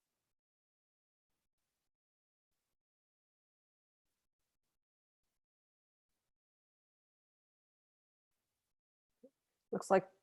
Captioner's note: no audio